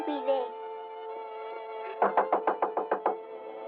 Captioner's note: Knocking